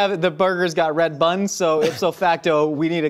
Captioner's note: laughs